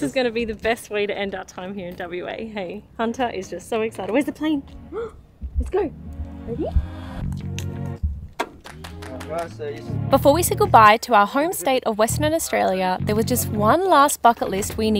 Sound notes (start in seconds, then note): 7.6 lighthearted music; 9.4 speaking faintly